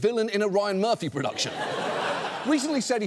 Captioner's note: audience laughs